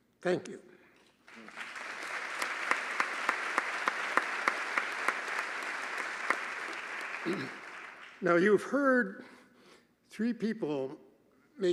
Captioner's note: applause